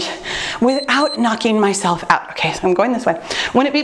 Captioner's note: timer beeps